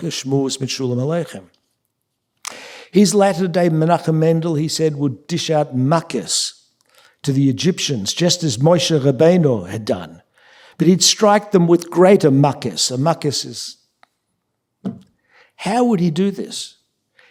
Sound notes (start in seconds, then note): 0.0 speaking yiddish; 6.2 yiddish; 12.4 yiddish